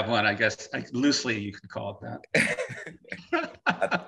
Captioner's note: laughing